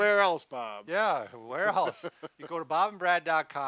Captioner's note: laughs